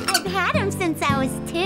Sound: squeaking

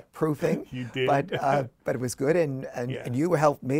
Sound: laughs

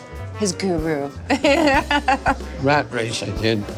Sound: laughing

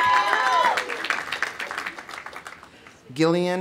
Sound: audience cheering; audience applauding

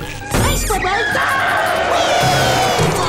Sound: screaming

